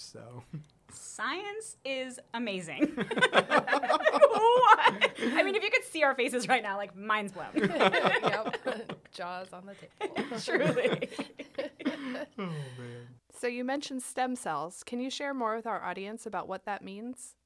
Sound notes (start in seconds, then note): 2.8 laughter; 7.5 laughter; 13.1 laughter